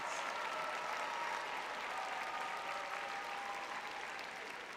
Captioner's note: applause; cheering